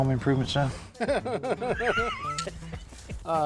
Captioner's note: both laugh